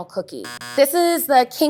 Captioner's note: buzzer sounds